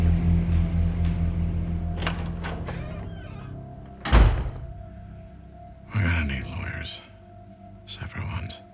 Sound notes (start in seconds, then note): 4.1 door closes